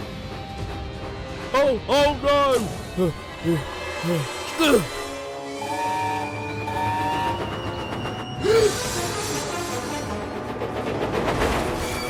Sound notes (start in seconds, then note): 2.6 signalman pants and grunts; 8.4 rheneas gasps